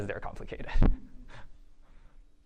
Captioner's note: chuckles